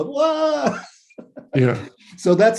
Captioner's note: laughs